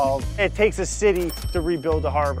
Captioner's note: cash register rings